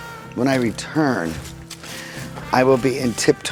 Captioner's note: leaves rustling